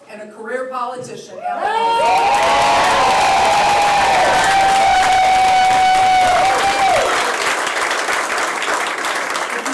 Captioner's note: applause